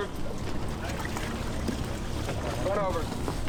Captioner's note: water splashing